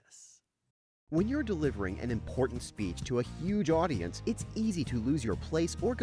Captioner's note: voiceover